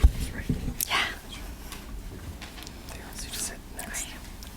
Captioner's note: whispering; continues whispering